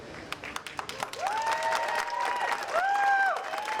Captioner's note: audience applauding